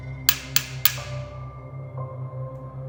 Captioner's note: tapping